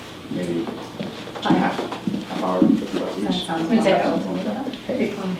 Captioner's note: people chattering